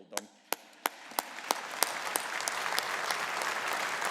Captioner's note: audience applauding